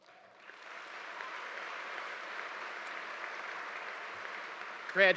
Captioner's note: audience applauding